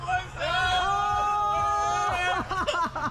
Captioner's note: laughing